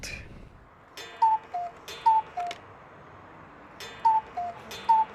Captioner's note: cuckoo clock chirping